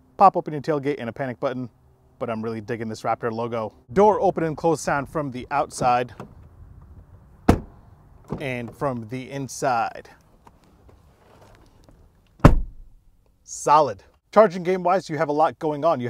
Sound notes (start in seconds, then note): 7.4 truck door thuds; 12.4 truck door thuds